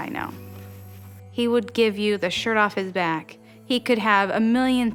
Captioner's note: none